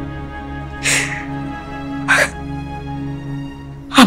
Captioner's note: Poonam sobbing